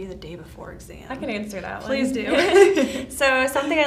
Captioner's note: laughs